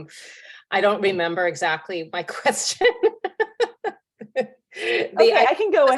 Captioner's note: laughing